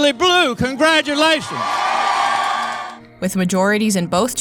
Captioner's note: crowd cheers